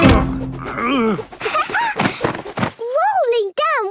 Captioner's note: laughing